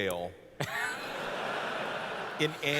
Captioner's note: laughter